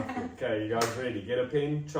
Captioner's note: clap